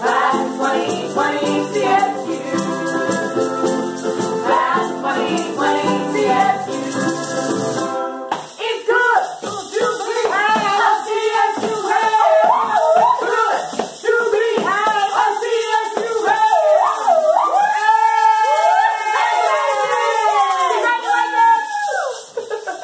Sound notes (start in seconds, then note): 16.0 all cheering; 22.3 all laughing